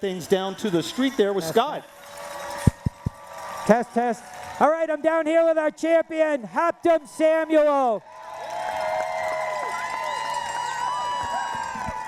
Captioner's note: cheering